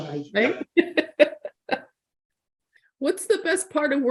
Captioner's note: laughing